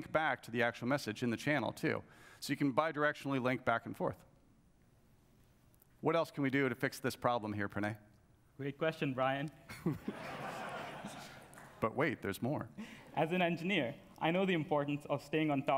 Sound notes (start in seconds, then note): 9.7 laughs; 9.8 audience laughs